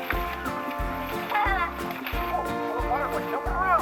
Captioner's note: assistant laughs